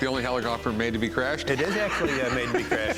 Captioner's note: laughs